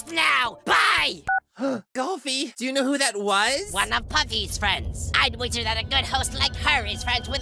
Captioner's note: gasp